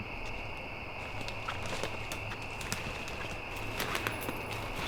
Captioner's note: leaves crunching